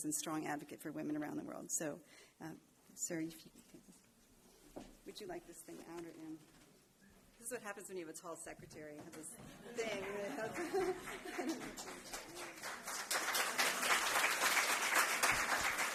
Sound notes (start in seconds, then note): 9.4 laughter; 12.9 applause